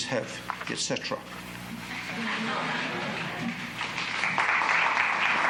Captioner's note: applause